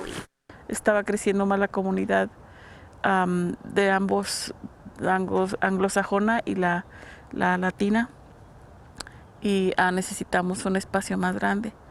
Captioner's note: speaking spanish